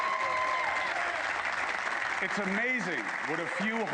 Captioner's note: applause